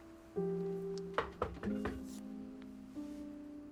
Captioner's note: door knocking